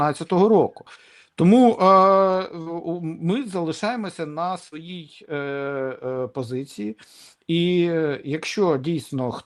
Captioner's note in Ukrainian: сопіння